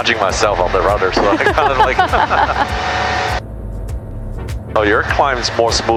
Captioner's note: both laughing